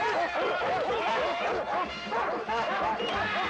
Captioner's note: dogs barking